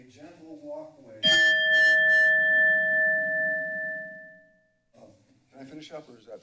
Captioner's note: bell rings